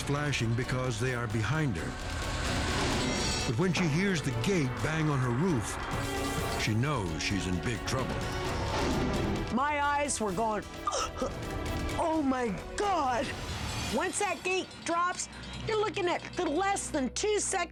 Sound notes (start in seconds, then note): 10.6 gasps